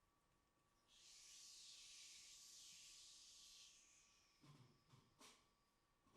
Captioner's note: man makes hissing sound